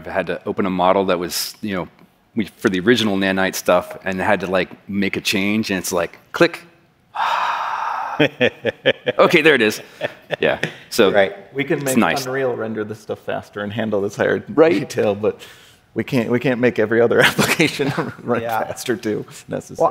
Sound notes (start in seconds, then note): 7.1 sighs; 7.2 laughs